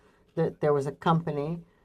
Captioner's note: speakingng French